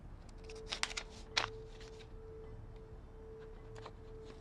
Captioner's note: paper shuffling